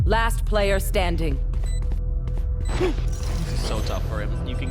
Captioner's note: footsteps